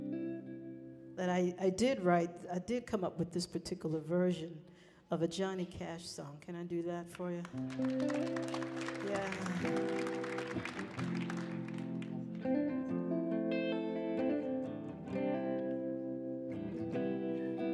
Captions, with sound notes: that I, I did write, I did come up with this particular version of a Johnny Cash song. Can I do that for you? (audience clapping) Yeah. (guitar strumming)